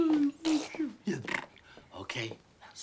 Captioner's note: Joe mimicking Lucia's babbling and spluttering